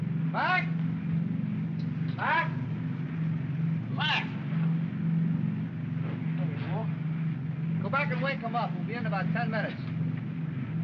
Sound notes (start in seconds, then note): 5.1 aircraft rumbles; 10.6 aircraft rumbles